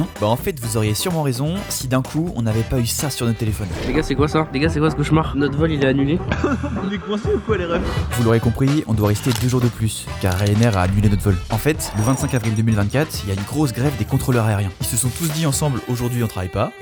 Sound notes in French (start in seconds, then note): 6.3 rire